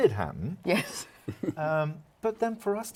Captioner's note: laughing